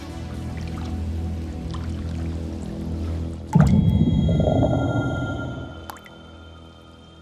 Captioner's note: eerie ringing; water dripping